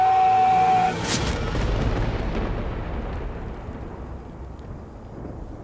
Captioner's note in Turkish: Gök gürültüsü efekti